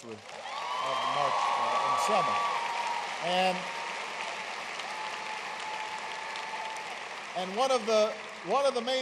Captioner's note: applause